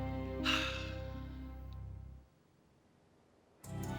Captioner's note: Rene sighs